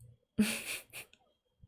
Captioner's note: laughs